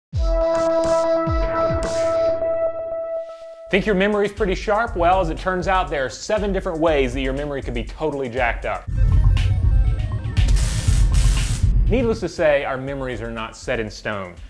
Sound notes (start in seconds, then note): 0.2 electronic music; 8.8 8-bit music; 10.4 electricity crackling